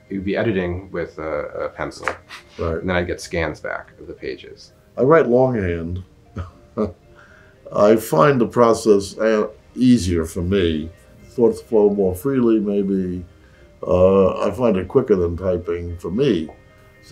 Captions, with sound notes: he would be editing with a pencil, - Right. and I'd get scans back of the pages. - I write longhand (chuckles). I find the process easier for me. Thoughts flow more freely, maybe. I find it quicker than typing for me.